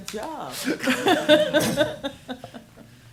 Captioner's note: laughing